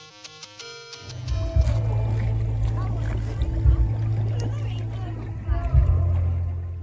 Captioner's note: sploosh, splash